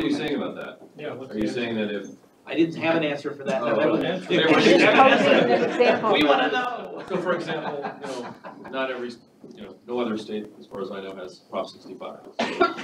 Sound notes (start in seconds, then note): 4.5 laughs; 7.1 all laughing